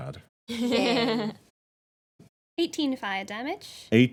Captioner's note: laughing